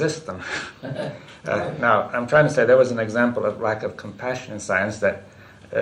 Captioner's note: laughs